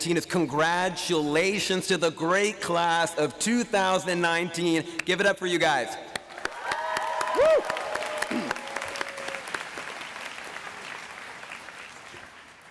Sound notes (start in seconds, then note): 6.1 applause